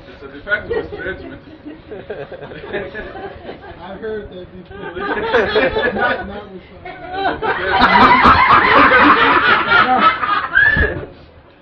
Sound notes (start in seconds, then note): 1.9 Gülüyorlar